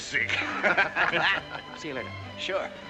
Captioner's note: all laugh